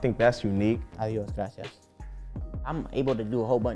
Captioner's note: speaking Spanish